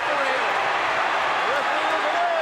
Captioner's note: audience cheering